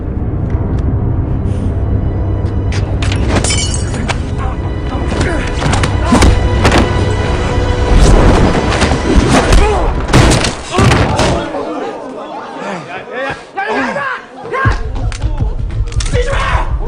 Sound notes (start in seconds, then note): 3.4 glass clacking; 5.3 man granting; 13.7 foreign language